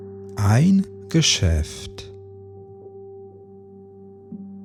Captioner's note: german